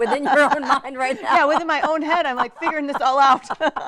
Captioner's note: laughs